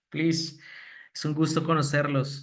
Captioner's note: speaking spanish